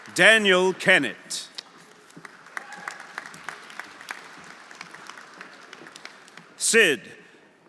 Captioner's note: audience applauding; audience cheering